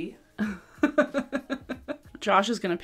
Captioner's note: laughing